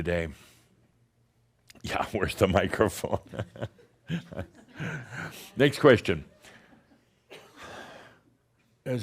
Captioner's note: chuckles as she’s looking for it